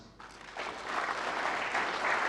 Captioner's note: audience applauds